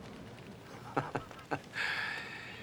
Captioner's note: chuckles